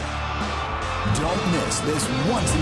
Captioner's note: cheers & applause